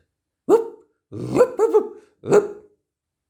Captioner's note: barking